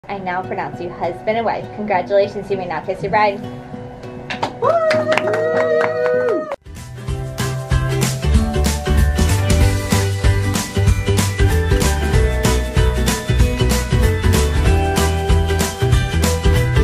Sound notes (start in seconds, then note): 4.6 cheering; 7.7 mellow upbeat music